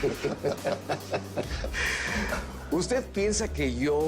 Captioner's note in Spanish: Risas